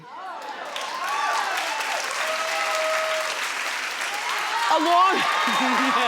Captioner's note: audience cheering and applauding